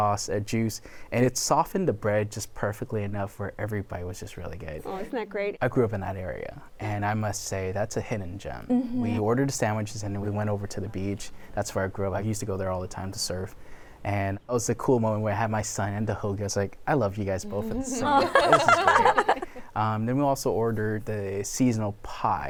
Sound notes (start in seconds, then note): 17.4 laughter